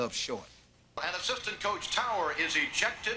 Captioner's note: voice On Intercom Speaker